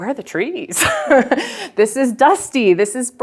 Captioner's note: chuckles